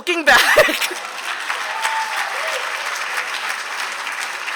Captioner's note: applause